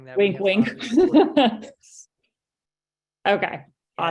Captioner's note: laughs